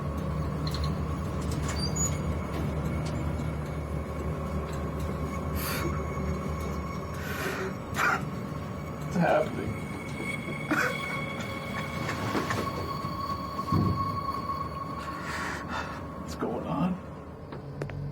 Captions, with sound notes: (suspenseful music) (Don sobbing quietly) - What's happening? What's going on?